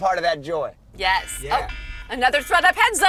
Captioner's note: alarm buzzing